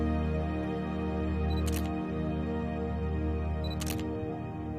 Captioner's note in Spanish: Sonido del disparador